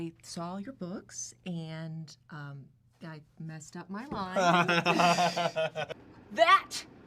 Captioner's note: Radovan Laughs